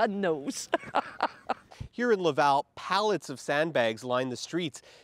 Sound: laughter

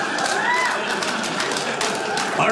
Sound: audience cheers

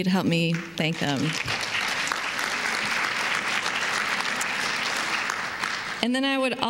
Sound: applause

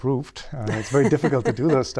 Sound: laughter

